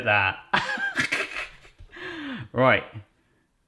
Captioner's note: laughing